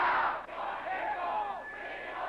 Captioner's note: crowd; crowd chanting